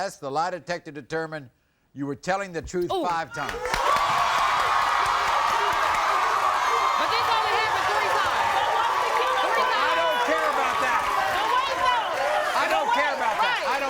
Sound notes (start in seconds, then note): 3.8 crowd cheering; 11.9 shouting